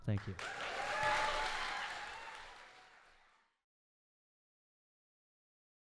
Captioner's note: audience cheers and applauds